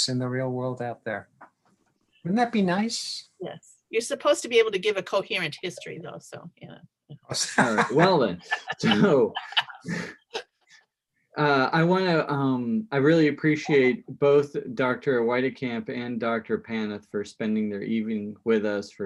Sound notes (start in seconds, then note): 7.3 laughs